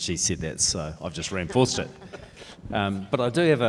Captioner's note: panellists laugh